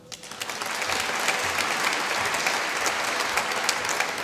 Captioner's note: applause